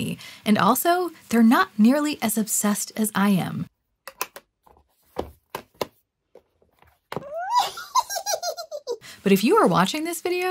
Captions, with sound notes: And also they're not nearly as obsessed as I am. (Impish laughter) But if you are watching this video,